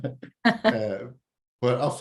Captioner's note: both laugh